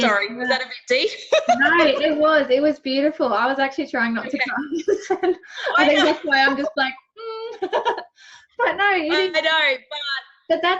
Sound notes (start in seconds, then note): 1.2 laughs; 4.4 laughing